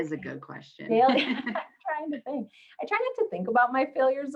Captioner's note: laughs